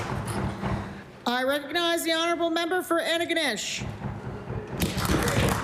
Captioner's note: applause